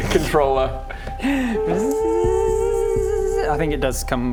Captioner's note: tzzzzzzzzzzzzzzzzzzzzzzzzzzzzzzzzzz